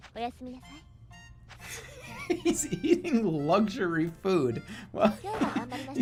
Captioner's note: giggling; continues giggling